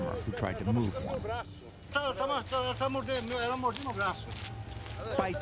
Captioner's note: speaking foreign language